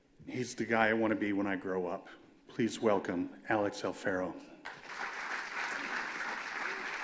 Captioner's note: applause